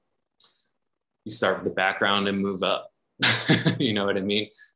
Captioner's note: chuckles